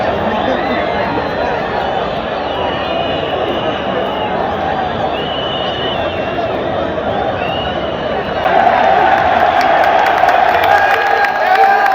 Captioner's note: cheers from the crowd